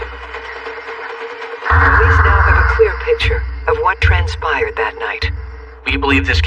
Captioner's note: gunshot